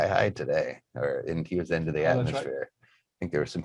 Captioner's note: murmurs